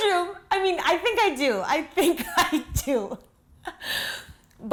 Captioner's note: laughs